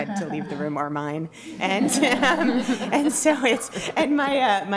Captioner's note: laughter